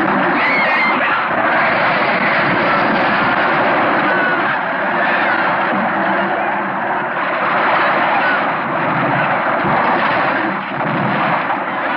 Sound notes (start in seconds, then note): 0.3 yelling; 2.8 crashing; 7.2 splashing